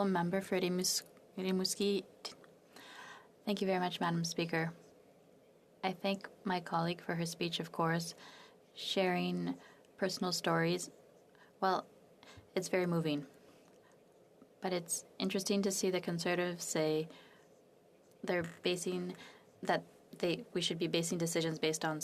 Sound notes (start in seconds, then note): 5.1 speaking French